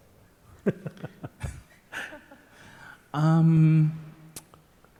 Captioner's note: chuckling